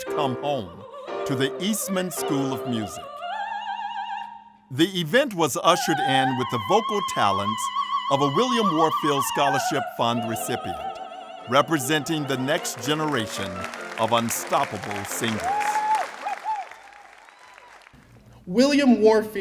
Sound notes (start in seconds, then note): 15.9 applause